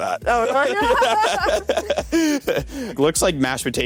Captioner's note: both laughs